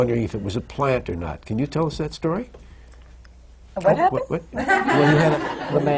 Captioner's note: laughter